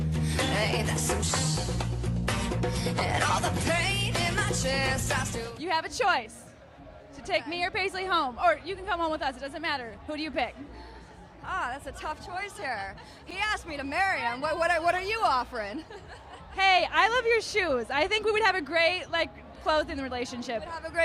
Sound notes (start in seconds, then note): 15.5 laugh